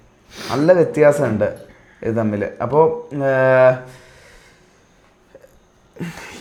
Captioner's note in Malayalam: ചീറ്റുന്നു